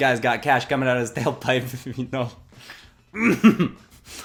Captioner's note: groans; chuckles